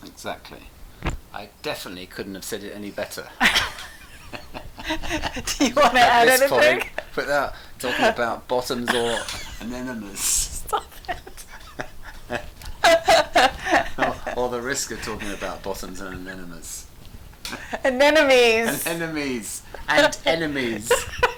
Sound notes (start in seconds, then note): 3.7 laughing; 11.4 laughs; 17.4 laughs